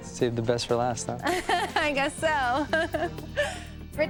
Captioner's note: laughing